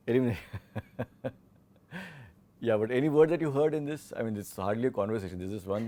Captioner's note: laughs